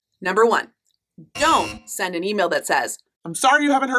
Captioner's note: error buzzing